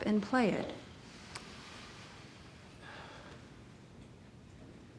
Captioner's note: man sighs